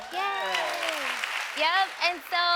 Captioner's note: audience applauding